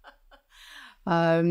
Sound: laughs

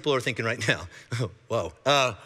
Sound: chuckling

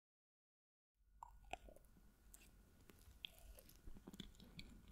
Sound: eatong sound

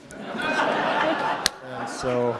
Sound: audience laughing

